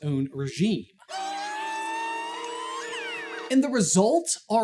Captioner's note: mischievous pixie screams